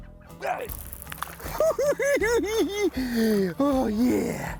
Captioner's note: cackling